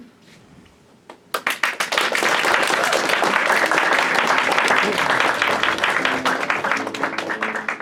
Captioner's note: applause; loading music